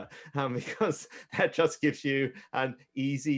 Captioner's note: chuckles